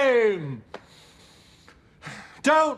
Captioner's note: he inhales, exhales